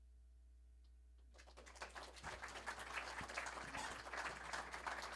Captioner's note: applause